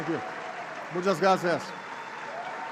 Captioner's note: applause